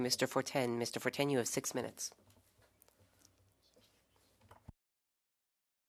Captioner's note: speaking French